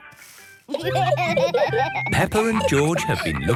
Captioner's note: laughter